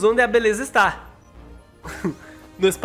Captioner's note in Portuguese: risos